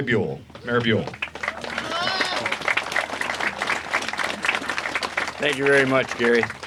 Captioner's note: applause